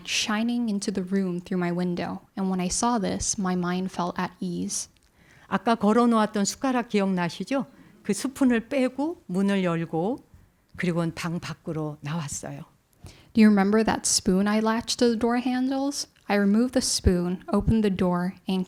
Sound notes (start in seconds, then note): 6.1 speaking in Korean